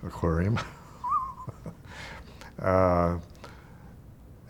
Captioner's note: chuckling